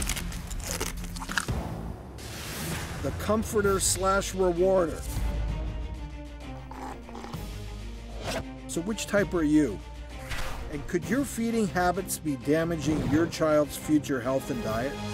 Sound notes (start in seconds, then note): 0.0 crunching; 6.6 slurping